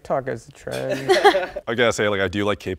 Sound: laughter

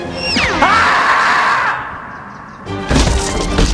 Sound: Tigger Screaming

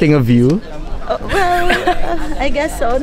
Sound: laughs

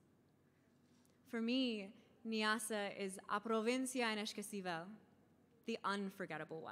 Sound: speaking in foreign language

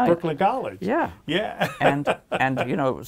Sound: laughs

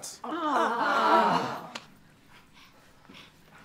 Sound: disgruntled groan

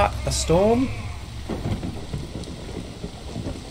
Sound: thunder clap

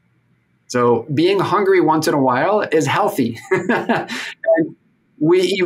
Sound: laughs

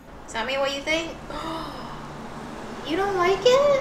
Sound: gasps

